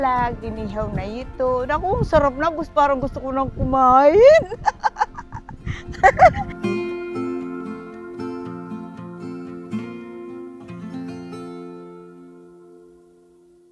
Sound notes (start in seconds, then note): 4.2 laughs